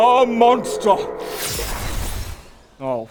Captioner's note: zwoooosh